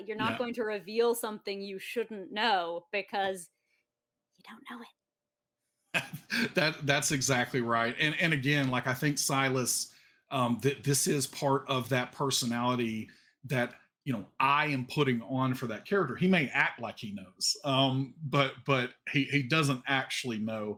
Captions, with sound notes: You're not going to reveal something you shouldn't know because you don't know it. - (laughs) That that's exactly right. And again, like I think Silas, that this is part of that personality that I am putting on for that character. He may act like he knows, but but he doesn't actually know.